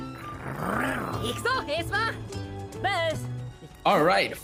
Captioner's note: foreign language